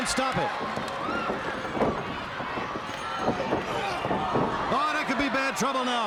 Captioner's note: crowd chatter